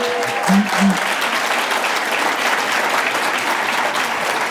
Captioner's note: applause